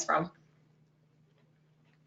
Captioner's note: pause